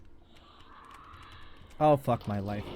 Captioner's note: shrieker screams